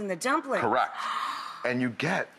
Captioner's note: gasps